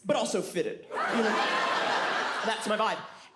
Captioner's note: audience laughs